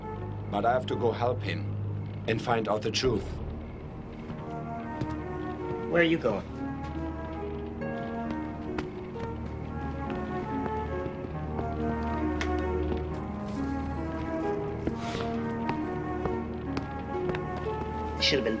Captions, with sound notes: but I have to go help him and find out the truth. (footsteps) - Where are you going? (chains rattling)